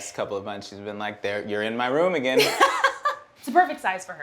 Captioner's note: Emmy laughs